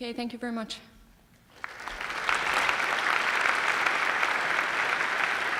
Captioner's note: applause